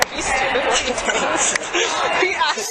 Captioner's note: laughter